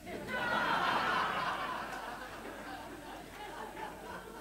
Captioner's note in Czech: smích